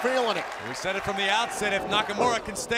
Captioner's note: crowd cheering